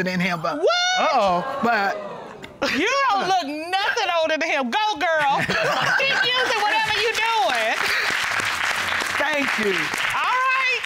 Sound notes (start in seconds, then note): 6.2 audience clapping